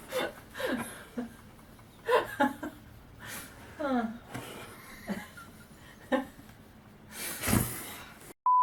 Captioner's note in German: Lacht